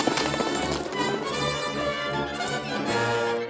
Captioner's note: horses galloping